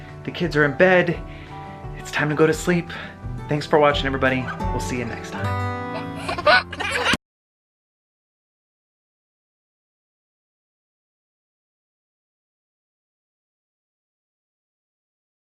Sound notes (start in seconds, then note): 5.9 laughs